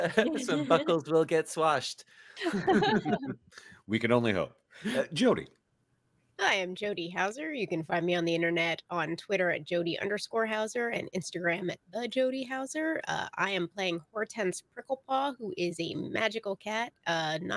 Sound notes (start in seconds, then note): 2.4 all giggle